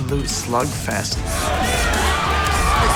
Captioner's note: grunting